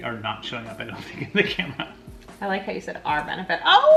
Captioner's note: laughs